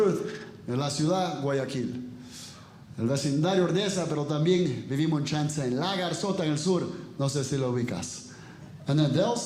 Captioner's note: speaking Spanish